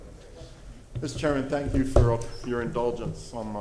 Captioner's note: off microphone